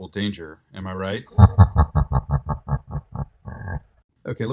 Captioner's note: evil Laugh